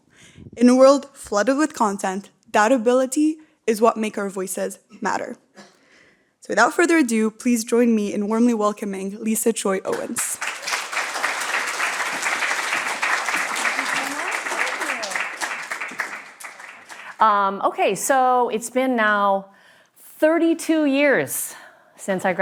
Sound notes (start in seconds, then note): 9.9 applause